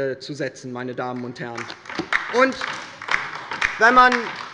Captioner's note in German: Beifall bei der LINKEN